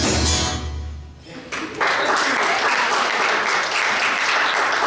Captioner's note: audience applauds